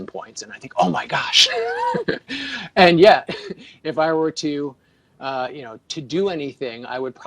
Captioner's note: laughs